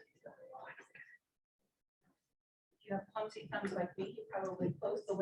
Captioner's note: audience chattering